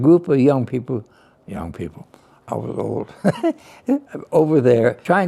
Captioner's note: laughs